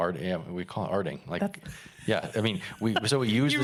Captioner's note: laughing